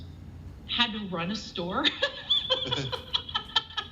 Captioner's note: laughs